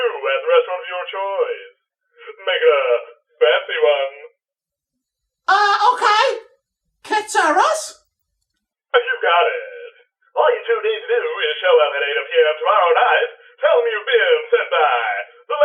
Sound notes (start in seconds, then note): none